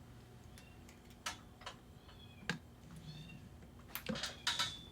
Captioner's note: cat mewing